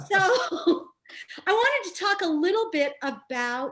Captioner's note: laughs